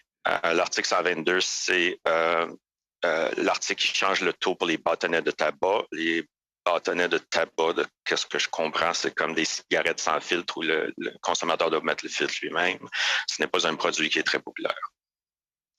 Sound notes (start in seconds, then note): 5.7 speaking French